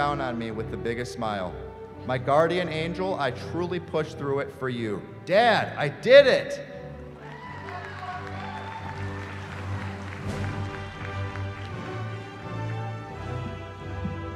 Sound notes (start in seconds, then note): 7.2 cheering